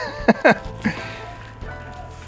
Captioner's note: laughing